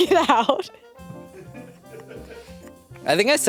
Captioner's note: crew laugh